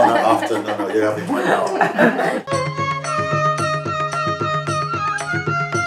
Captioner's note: Lachen